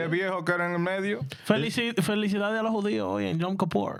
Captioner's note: speaking In Foreign Language